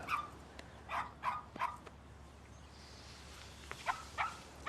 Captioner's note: dog barking